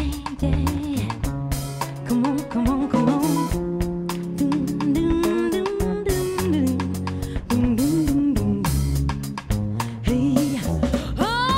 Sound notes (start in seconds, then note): 4.5 humming